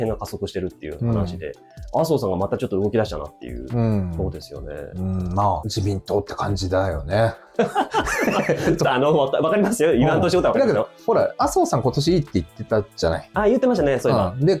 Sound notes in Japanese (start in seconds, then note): 7.6 笑い